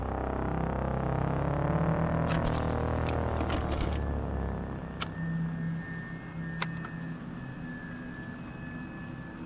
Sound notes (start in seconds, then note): 1.1 static